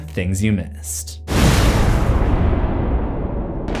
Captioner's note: impact